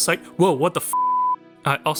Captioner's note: beep